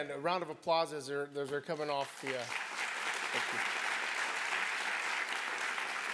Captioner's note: applause